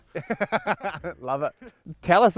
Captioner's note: laughing